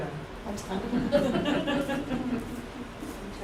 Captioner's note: laughter